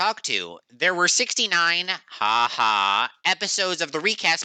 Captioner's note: haha